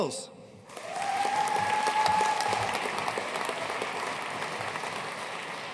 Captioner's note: audience cheering and applauding